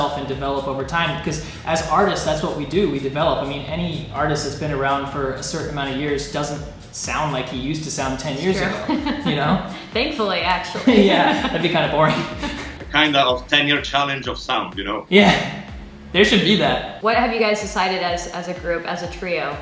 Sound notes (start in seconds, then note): 8.0 laughing